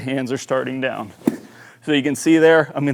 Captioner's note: club tapping